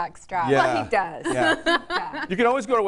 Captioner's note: laughs